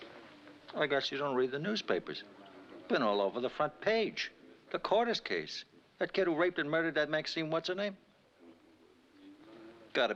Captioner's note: scoffs